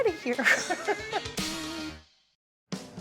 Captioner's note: laughing; upbeat music